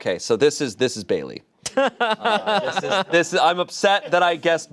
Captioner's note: laughs